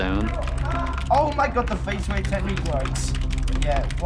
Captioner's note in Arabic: صياح على سماعة الرأس